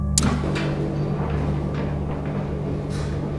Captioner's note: whirring